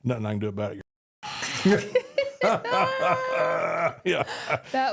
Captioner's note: group laughs